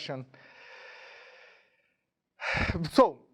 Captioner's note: sighing